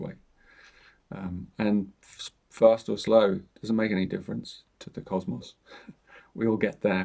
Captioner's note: chuckles